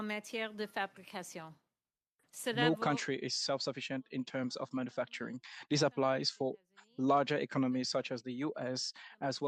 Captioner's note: speaking French